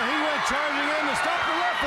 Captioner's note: crowd cheering